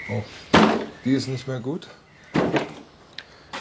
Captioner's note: rumble